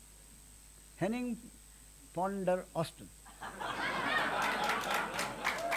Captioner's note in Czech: smích